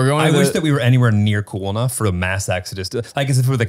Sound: speaking in foreign language

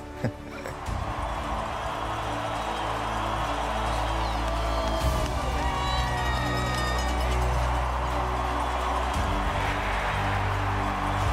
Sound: cheering

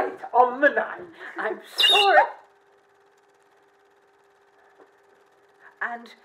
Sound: bird whistle

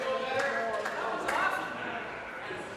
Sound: applause

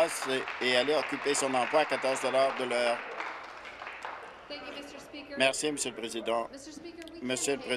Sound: applause

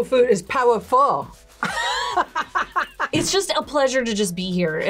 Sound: laughs

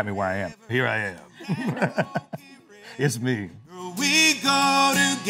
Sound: laughs

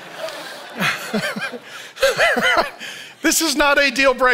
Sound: laughs

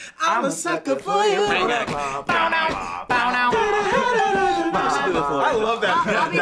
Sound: beat boxes

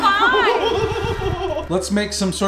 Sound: laughing

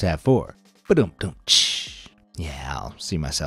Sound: imitates humorous drums

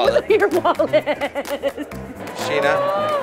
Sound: laughs

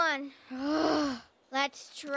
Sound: long sigh

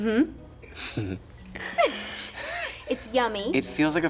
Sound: laughing

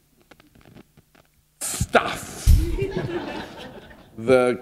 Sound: laughter

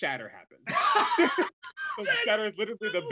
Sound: both laugh

